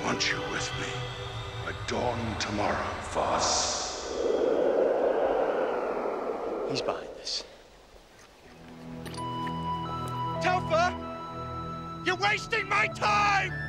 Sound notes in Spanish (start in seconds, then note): 4.3 viento silbando; 9.2 música de flauta suave